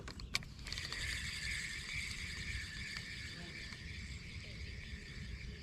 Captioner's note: casting fishing line; reeling in fishing line